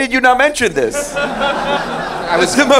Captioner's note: laughing